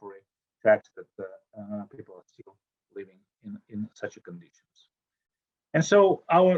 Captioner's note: audio drop